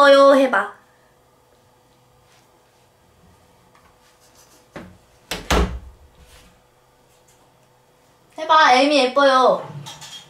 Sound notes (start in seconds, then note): 5.3 door closes?